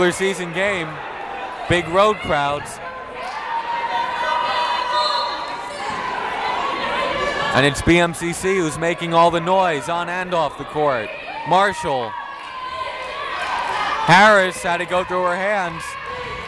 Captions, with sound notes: This isn't a regular season game, big road crowds. (whistle blowing) And it's BMCC who's making all the noise, on and off the court. Marshall, Harris had to go through her hands.